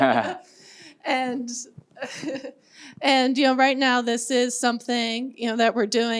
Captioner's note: laughs